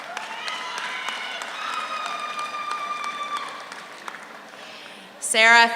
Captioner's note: audience cheers; audience applauds